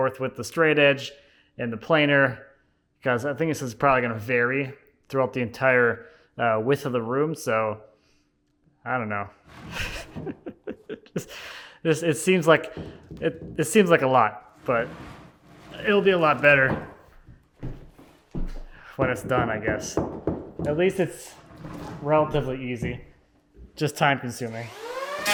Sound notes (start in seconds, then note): 9.6 laughs